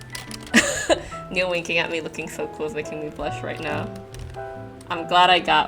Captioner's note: laughs